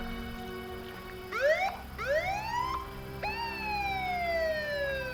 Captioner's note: siren wailing